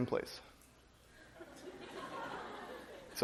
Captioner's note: laughter